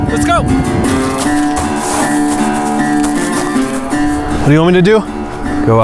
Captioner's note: footsteps crunching